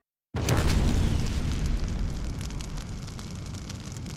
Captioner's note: explosion